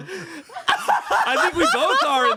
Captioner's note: everyone laughs